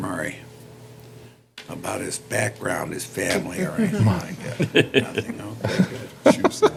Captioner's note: laughter